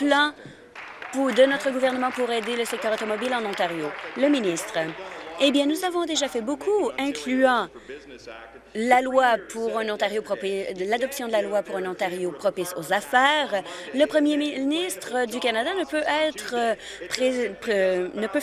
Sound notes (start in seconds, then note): 3.3 applause